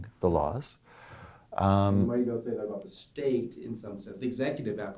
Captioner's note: voiceover